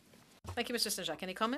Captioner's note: speaking French